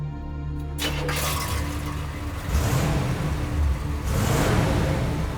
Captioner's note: car starting; engine revving